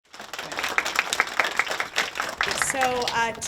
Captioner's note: kids clapping